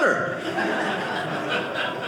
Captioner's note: audience laughing